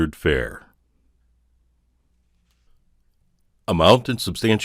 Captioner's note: silence